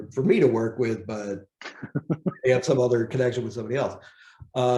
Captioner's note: laughs